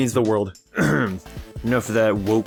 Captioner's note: clears throat